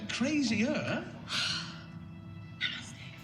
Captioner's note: exhales